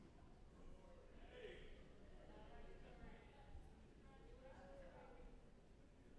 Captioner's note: off-mic attendee conversations